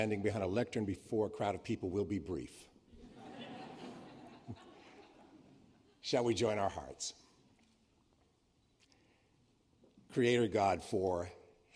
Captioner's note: laughter